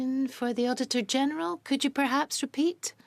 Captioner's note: speaking French